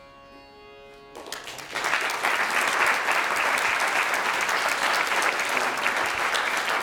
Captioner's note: applause